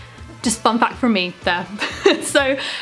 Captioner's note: laughs